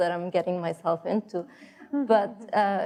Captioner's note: laughing